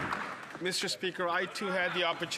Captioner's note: some Applause